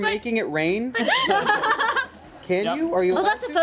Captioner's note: women laugh